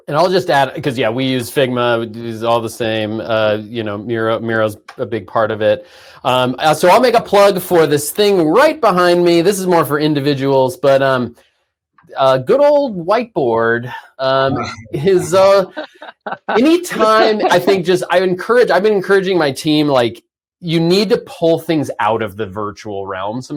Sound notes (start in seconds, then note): 14.2 laughs